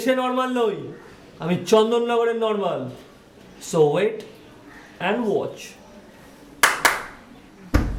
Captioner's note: claps